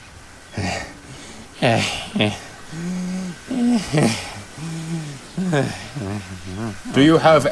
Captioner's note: pants